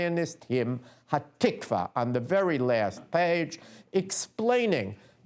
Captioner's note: non-english speech